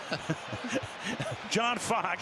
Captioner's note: laughter